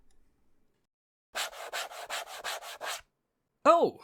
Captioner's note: filing Noises